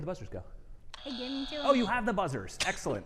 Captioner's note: buzzer buzzing